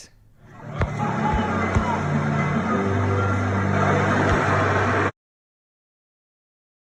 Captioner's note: warm music; waterfall roars